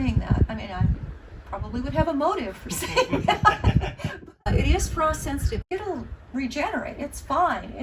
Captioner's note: laughs